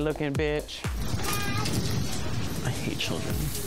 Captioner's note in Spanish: Bebé llorando